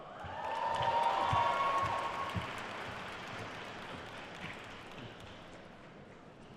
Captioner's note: attendees cheering and applauding